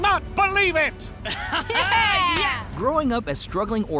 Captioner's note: laughing